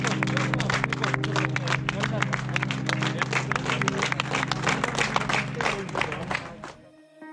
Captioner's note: applause